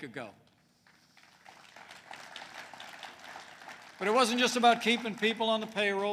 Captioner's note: applause